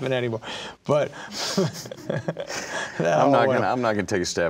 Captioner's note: laughing